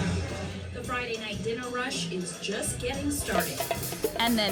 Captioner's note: TV audio